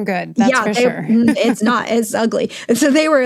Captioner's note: chuckles